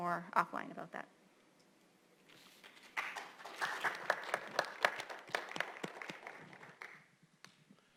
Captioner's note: applause